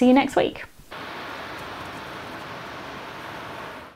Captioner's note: waves crashing